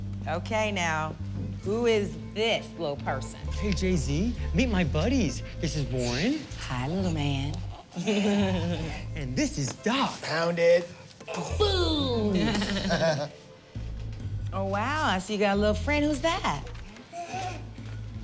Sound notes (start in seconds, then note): 7.6 laughing; 12.3 laughter; 16.9 jz chuckles